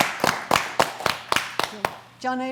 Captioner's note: applause